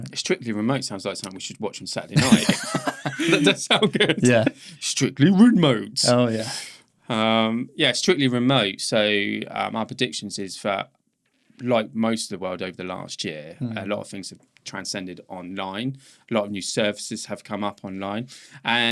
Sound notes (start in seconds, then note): 2.1 both laughing